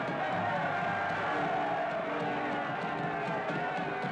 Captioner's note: cheering